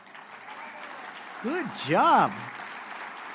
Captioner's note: applause